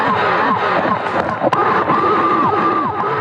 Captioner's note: upbeat eerie music; vocals echoing; performer thuds; upbeat eerie music; vocals echoing